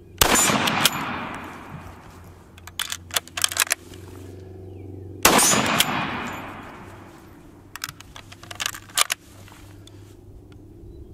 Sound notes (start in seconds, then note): 0.2 gun shot; 2.8 ammo reloading; 5.2 gun shot